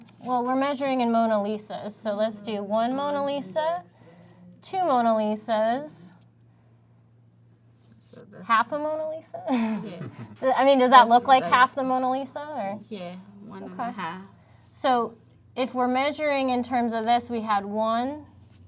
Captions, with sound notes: - Well, we're measuring in Mona Lisas, so let's do one Mona Lisa, two Mona Lisas. - So that's- - Half a Mona Lisa? - Yeah. (all laugh) - I mean, does that look like half the Mona Lisa or? - Yeah, one and a half. - Okay. So if we're measuring in terms of this, we had one,